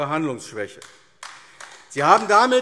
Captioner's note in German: Beifall AfD